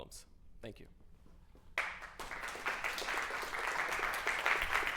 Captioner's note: applause